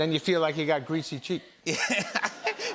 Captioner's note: laughter